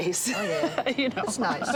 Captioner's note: laughs